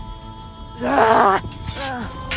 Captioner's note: yells while trying to attack Steve